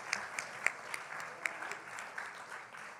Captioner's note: cheering and Applause